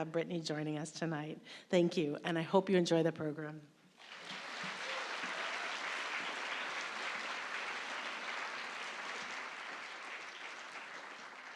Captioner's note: applause